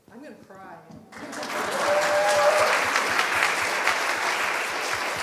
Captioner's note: applause